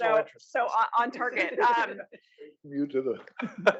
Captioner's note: laugh